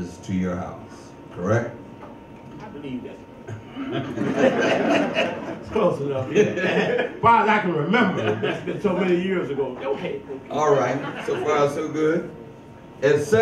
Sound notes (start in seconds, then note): 3.6 all laugh; 10.7 audience chuckles